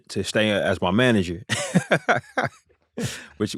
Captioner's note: laughter